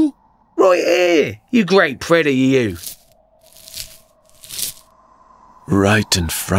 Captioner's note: steps in the snow